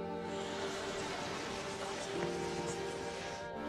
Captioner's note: gasps